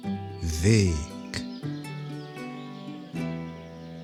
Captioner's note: german